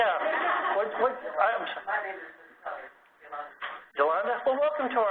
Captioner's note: laugh